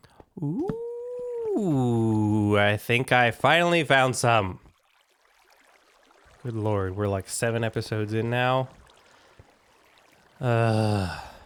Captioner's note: groan